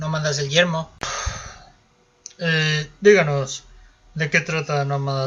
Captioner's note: exhales, fed up